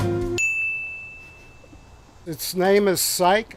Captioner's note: bell chiming